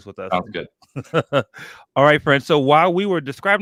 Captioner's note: laughs